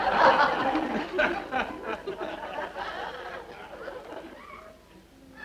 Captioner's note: audience laughter